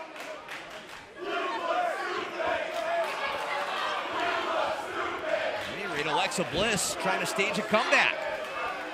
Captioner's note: fans chanting